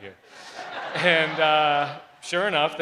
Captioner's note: crowd laughs